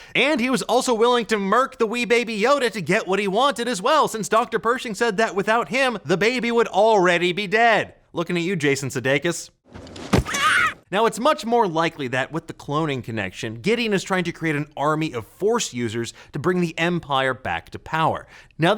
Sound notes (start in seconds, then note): 10.2 Yoda wailing